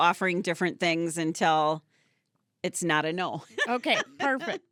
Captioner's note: laughing